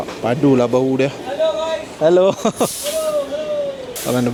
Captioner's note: laugh